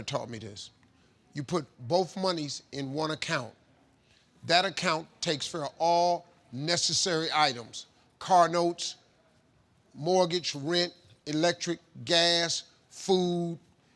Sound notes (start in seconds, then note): none